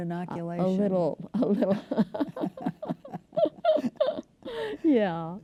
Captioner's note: laughter